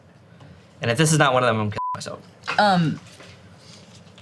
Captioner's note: beep